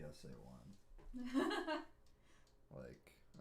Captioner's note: laughing